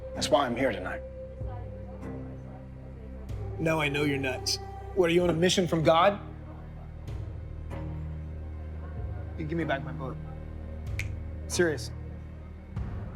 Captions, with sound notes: - That's why I'm here tonight. - Now I know you're nuts. What, are you on a mission from God? Give me back my book. (snaps fingers) I'm serious.